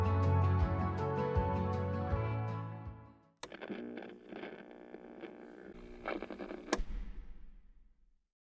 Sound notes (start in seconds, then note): 6.1 radio turns off